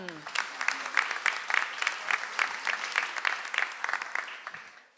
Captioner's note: audience applauds